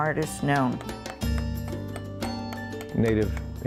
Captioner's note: carving Noises